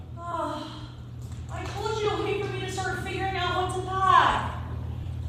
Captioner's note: sighs